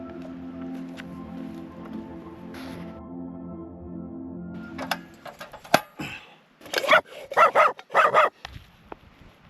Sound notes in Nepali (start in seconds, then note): 6.0 घाँटी सफा गरेको आवाज